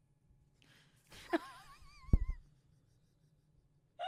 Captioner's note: laughing